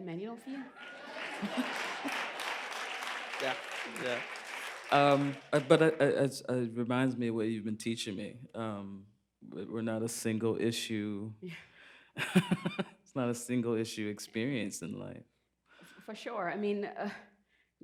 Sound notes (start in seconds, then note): 4.3 applause; 12.2 laughs